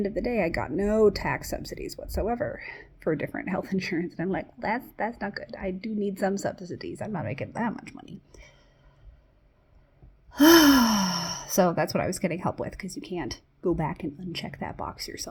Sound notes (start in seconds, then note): 10.3 sighs